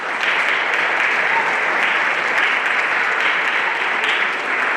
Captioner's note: everyone applauding